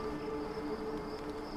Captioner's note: crickets chirping